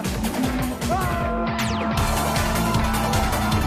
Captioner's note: best scream ever